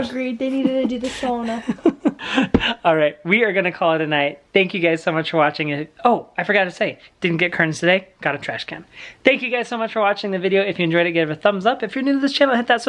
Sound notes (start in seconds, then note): 0.4 laughing